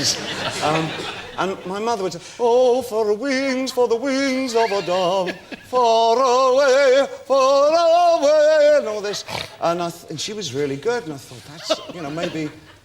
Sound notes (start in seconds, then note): 9.1 pig laugh